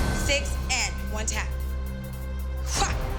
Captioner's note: grunts